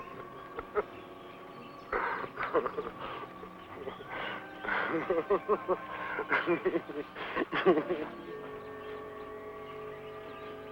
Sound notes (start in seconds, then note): 1.9 laughing